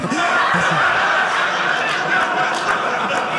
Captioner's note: audience laughing